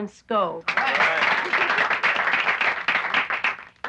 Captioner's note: applauding